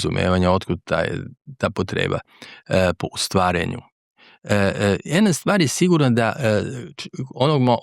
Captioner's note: clears throat